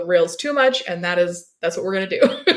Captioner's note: laughs